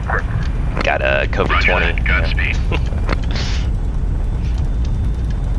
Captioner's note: laughs